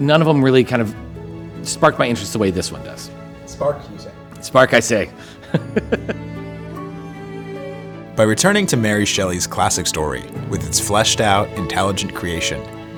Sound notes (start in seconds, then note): 5.4 laughs